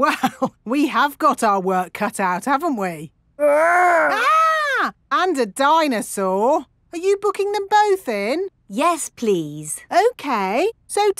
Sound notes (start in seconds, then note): 0.2 chuckling; 3.5 mock screaming